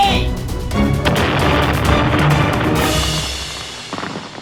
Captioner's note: dramatic music; games exploding